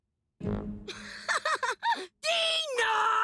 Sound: laughing

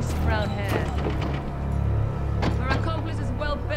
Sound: Kah'Nath soldiers pound at doors

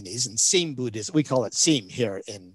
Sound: speaks in foreign language

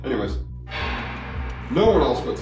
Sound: loud bang

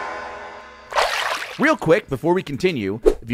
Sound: water splashes

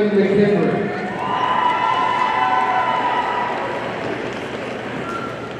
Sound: audience cheering

